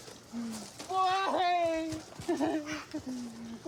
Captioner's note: sobs